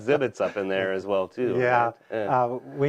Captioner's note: laughter